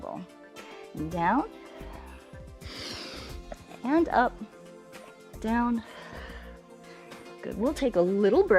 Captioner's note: exhales